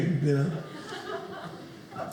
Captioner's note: audience laughing